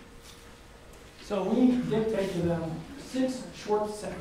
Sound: coughs

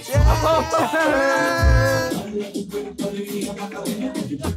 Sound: all cheering

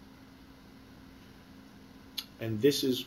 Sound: pause

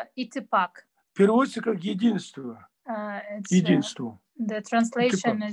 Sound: in Russian

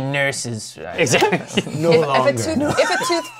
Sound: laughs

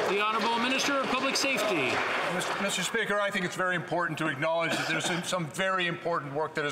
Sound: some Applause

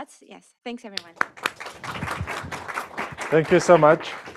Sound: applause

